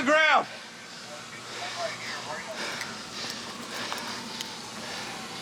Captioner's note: heavy breathing